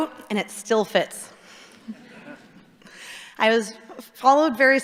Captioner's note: audience chuckling